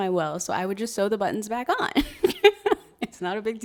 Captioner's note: laughs